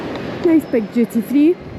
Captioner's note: airport noises